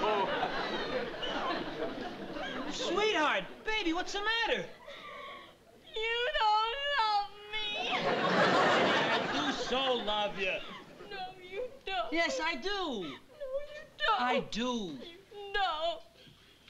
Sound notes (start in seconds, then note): 5.7 crying